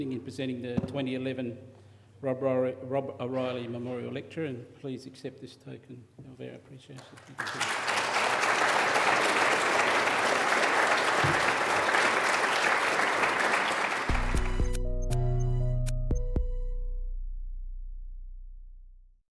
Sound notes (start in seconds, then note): 12.5 applause